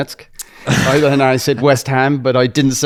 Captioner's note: laughs